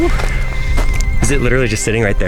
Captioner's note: sighs